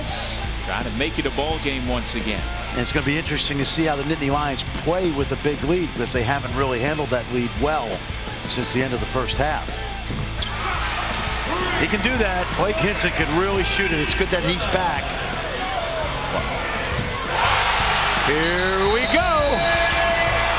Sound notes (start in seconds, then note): 16.8 crowd cheering loudly